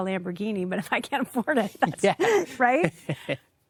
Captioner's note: giggling